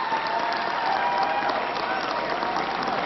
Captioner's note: applause